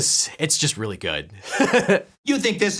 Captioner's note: laughs